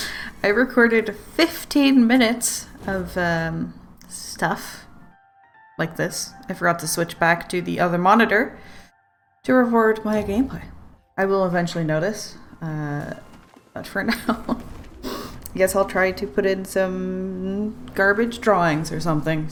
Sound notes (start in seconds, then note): 14.0 laughs